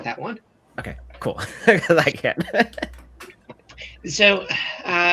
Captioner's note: laughs